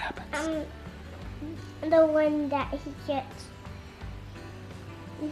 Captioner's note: mumbles